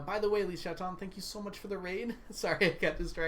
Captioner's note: laughs